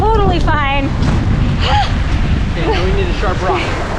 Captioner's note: exhales sharply